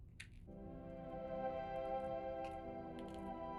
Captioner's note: shuffling of footsteps; ethereal, dreamy music